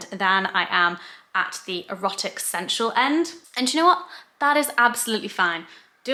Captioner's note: none